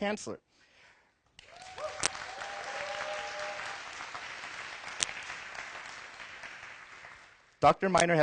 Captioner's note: applause